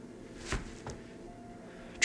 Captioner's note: hand thumps